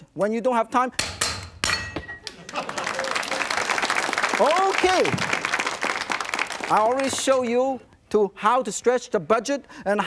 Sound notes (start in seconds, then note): 2.2 audience clapping